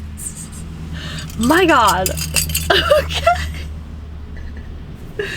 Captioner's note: laughs